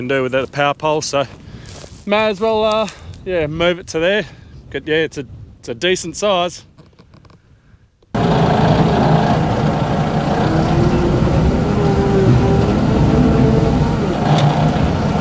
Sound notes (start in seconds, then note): 10.3 motor rumbling